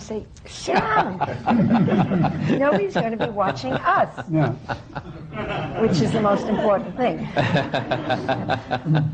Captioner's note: laughter